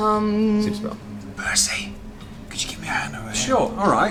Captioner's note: whispers